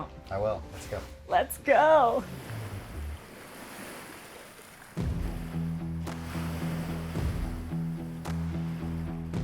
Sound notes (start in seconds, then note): 0.7 waves rumbling softly; 5.0 soft upbeat music